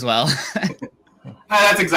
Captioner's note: laughs